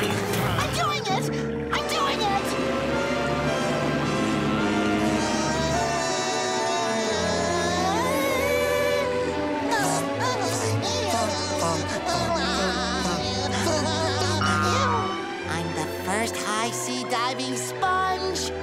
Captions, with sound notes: I'm doing it, I'm doing it! [groaning] [laughing] First high sea diving sponge!